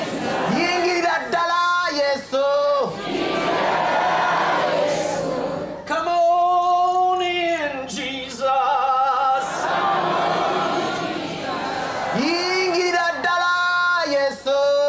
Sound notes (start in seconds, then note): 2.5 audience repeats in local language; 9.1 audience repeats in english